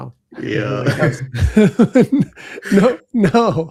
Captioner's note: laughter